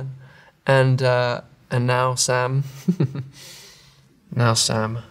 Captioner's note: chuckles